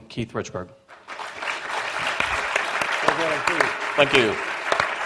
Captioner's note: applause